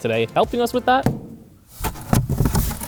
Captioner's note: knocks; box rustling and thumping